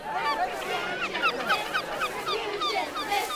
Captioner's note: cheers